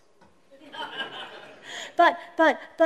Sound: laughter

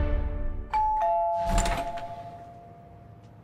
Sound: doorbell rings

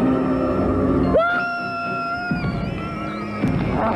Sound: screaming

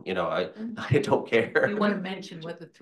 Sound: laughs

